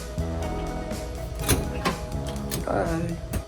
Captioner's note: handle clicks